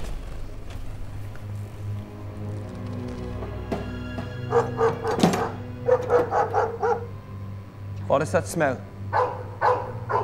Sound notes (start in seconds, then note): 0.2 ominous music; 1.9 dog barking; 5.8 dog barking; 9.1 dog barking